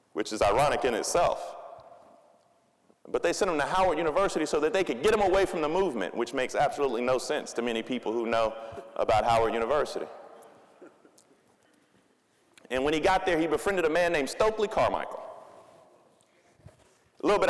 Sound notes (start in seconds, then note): 10.7 audience chuckling